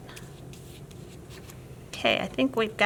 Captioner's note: brushing